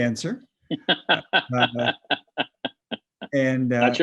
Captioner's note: laughing